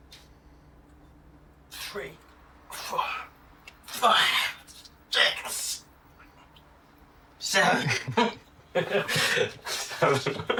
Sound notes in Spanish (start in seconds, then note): 7.8 risas